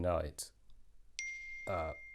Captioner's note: ping